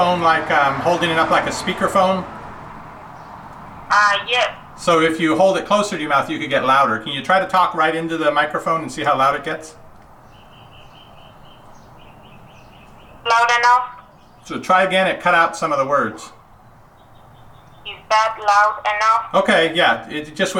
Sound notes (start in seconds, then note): 3.4 voiceover; 13.4 voiceover; 18.1 voiceover